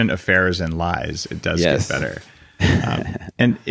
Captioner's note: laughs